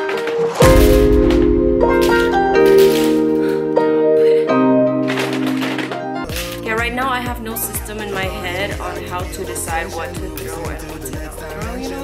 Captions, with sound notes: *exhales* tired... Okay right now i have no system in my head on how to decide what to throw and what to